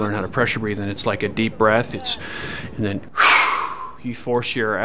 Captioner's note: breathes in; blows out hard